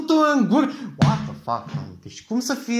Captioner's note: slam